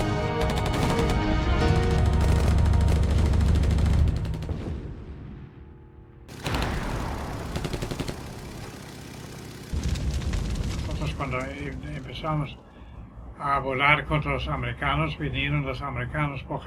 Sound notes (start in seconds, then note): 6.3 shoots sound